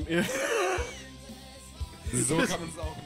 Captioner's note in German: Lachen